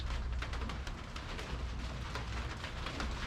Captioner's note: slowing rain drops